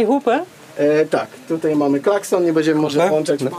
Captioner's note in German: erklärt auf polnisch